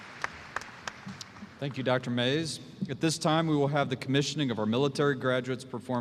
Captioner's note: applause